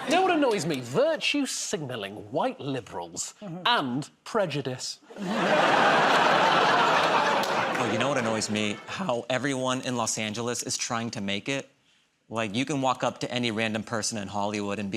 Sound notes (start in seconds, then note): 5.1 laughter